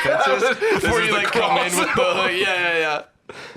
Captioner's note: laughs